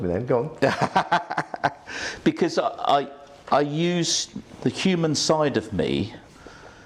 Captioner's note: laughs